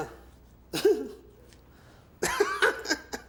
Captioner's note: giggles